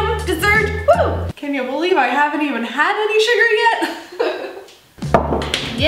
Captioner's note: laughs